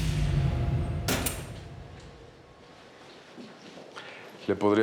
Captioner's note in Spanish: ruido al entrar